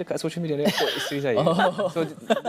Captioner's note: laugh